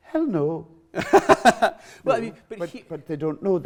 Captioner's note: laughs